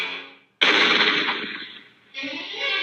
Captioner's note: gunshot